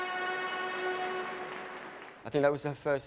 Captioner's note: audience applauds